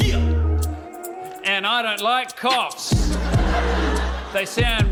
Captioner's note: laughs; laughter